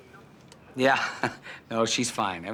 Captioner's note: chuckles